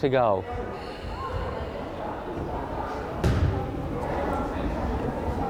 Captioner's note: crowd chattering